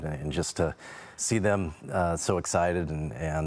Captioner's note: none